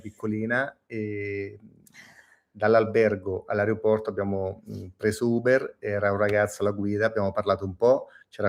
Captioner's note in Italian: sbuffare